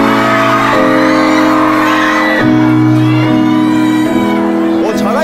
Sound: Girl fans cheering upon Joo-hyuk's appearance

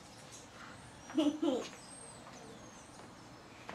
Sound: girl laughs offscreen

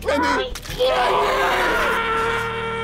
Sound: screaming

